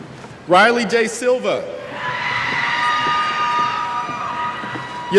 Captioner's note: cheers